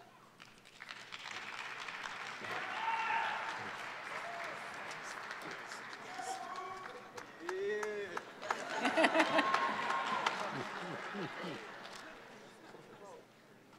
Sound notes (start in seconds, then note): 1.1 audience applause and cheer; 8.1 laughs